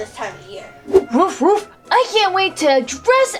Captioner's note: dog barks